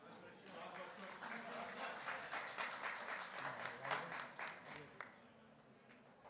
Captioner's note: applause